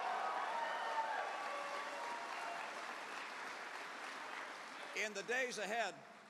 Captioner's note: cheers